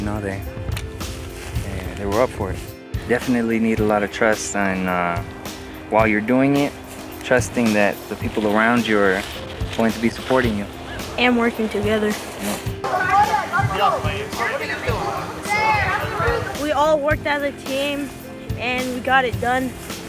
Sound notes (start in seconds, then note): 12.8 kids talking